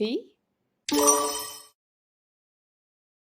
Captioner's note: sonido de timbre correcto